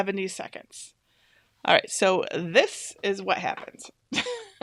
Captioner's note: laughs